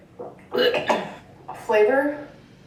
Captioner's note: gags